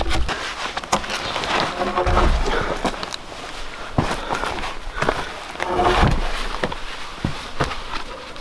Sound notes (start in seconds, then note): 2.5 log thudding